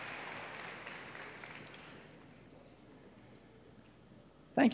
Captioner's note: cheers and applause